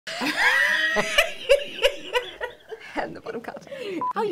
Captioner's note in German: lachen